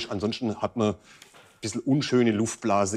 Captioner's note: none